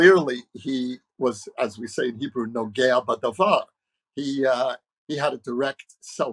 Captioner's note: speaking hebrew